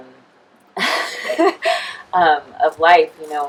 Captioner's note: woman laughing